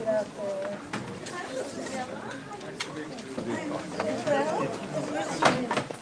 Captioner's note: chatter